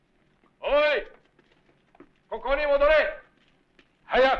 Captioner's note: non-english speech